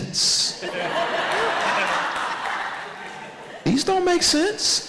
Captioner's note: audience laughs